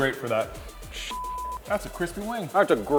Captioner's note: beep